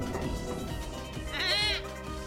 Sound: nervous bleating

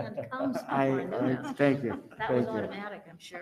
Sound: group chattering

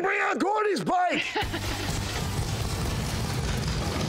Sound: engine rumbling

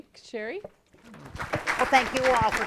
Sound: audience applauding

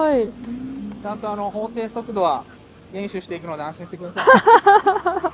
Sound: laughs

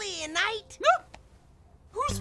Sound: principal shrieks

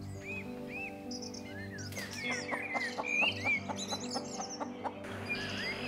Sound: Muriel clucks; wind blows

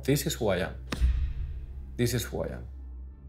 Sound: boxing glove pounds

